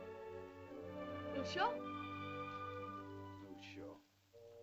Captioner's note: Loana says "Father?" in caveman language